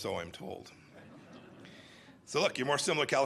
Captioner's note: laughter